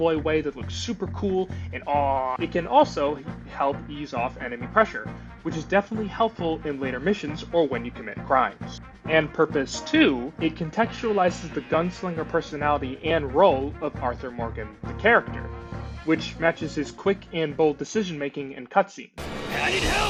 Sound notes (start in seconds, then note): 1.7 happy American noises